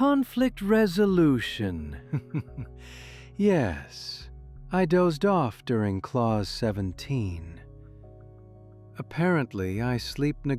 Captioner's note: chuckles